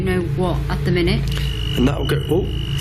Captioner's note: metre beeping